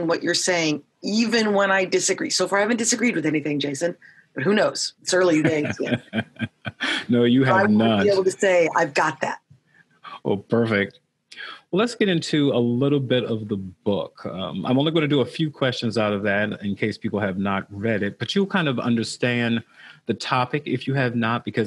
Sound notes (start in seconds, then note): 5.3 laughing